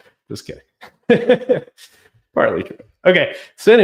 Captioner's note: laughs